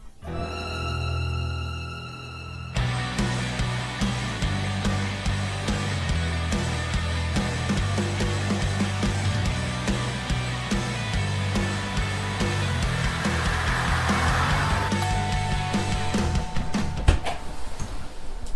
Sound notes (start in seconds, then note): 14.9 doorbell rings